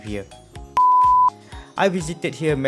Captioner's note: beep